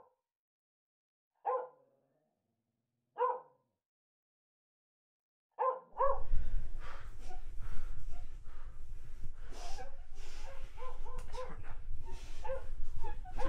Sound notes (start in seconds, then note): 8.7 captive crying